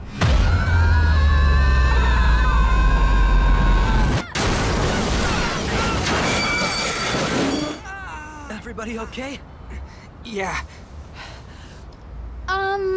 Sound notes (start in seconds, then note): 0.0 explosion; 0.2 screaming; 4.3 crashing